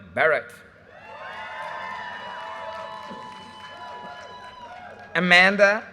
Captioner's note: audience cheers and applause